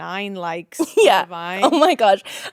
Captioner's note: laughing